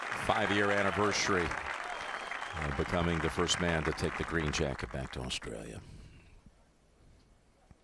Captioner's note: cheers and applause